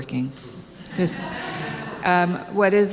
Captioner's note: laughter